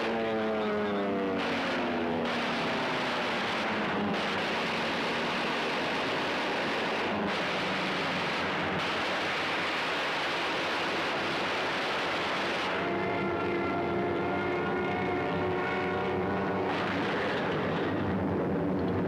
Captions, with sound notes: Okay, Mack, let them have it. [gunfire] [airplane whirring] [crashing]